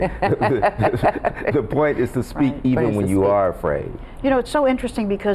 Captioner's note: laughs